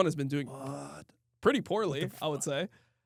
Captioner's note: laughs